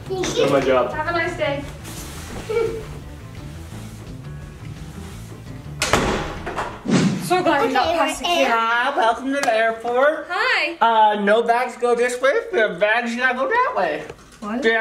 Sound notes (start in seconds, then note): 2.4 giggling; 2.8 upbeat music